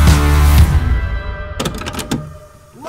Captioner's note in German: Klackern; Dynamische Trommelmusik